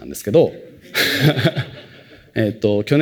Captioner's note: laughter